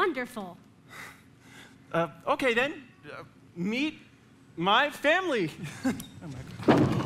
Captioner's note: sighs